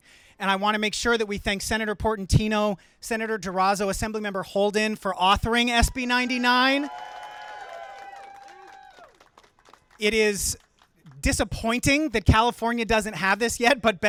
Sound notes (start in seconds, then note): 7.5 audience cheering